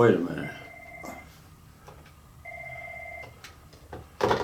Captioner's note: phone ringing